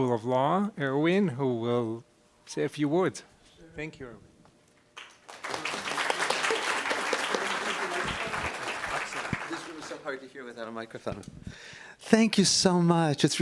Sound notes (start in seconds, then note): 5.2 applause and laughter